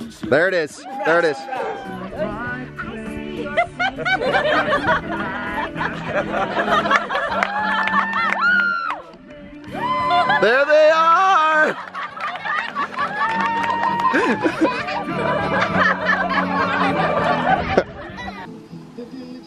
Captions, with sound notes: There it is. (audience laughs) (audience cheers) There they are!